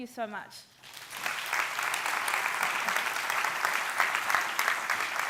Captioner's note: audience applauds